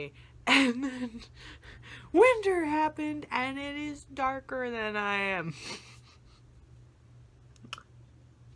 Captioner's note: laughs